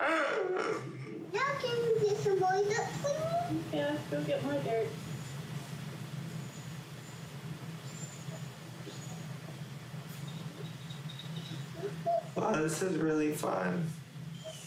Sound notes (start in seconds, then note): 6.0 nature sounds